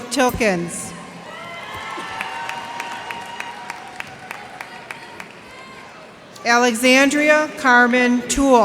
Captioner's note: cheers and applause